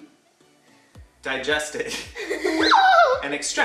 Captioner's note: shrieks